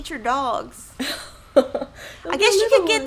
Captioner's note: laughing